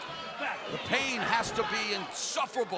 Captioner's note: crowd cheering